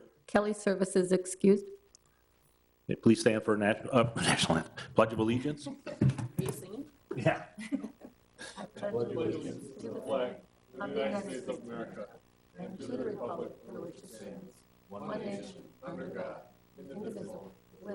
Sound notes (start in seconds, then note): 5.2 laughs